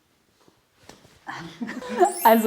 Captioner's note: both laugh